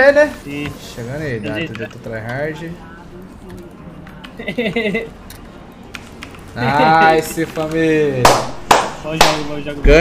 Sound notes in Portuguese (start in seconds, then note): 4.4 rindo; 8.2 Aplaudindo